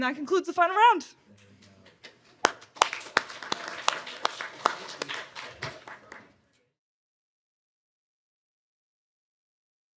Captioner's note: applause